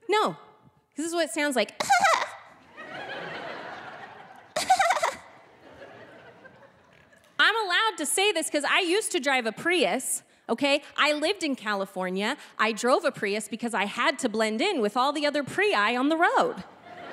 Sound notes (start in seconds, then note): 2.5 spluttering; 2.6 audience laughing; 5.3 spluttering